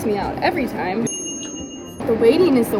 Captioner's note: air fryer dinging